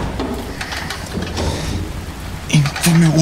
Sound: metal creaking; footsteps

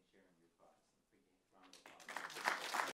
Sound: ? applause. ?

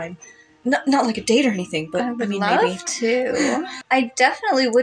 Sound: chuckle

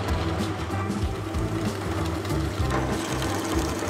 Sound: drill vibrating

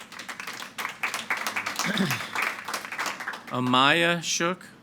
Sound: audience applauding

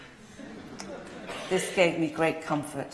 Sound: laughter

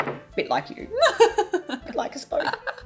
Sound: laughing

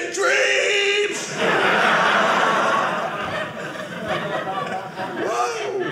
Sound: audience laughing

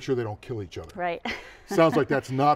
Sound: laughing

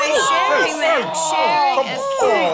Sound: groaning

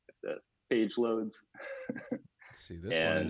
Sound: laughs

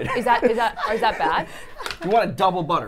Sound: laughs

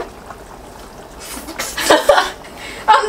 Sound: eating

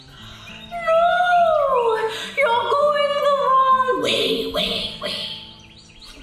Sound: echoing

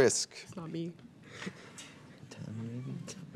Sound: laughs

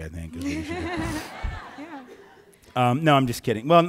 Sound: giggles; audiences agrees

